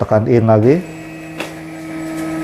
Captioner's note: printer machine noise